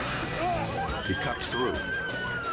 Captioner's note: all screaming